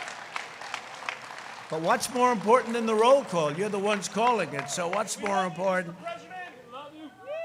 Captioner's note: crowd cheering